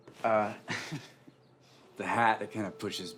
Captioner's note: Hatfield chuckles